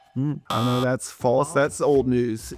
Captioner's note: buzzer buzzes